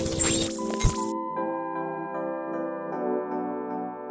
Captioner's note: logo beeps